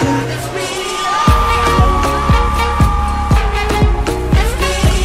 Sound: audience cheering

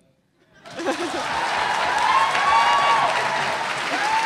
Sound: audience cheering

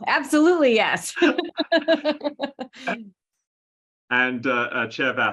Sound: laughing

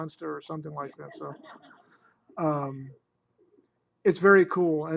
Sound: laughter

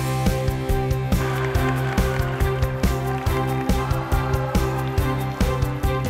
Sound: cheers

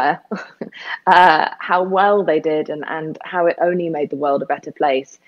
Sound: laughs

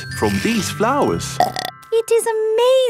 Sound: burps

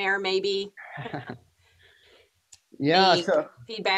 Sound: chuckles

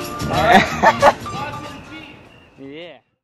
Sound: man laughing

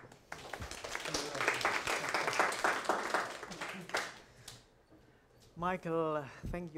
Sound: applause

